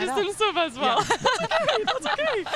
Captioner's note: laughter